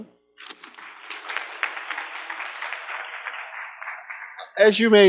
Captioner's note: audience claps